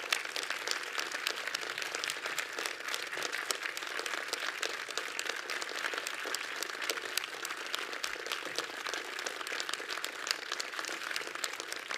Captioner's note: audience continues applauding